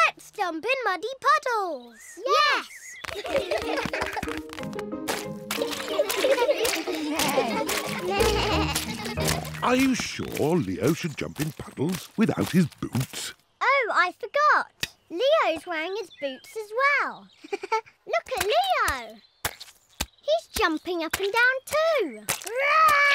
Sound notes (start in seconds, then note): 3.6 all giggling; 7.2 bleating; 17.4 giggles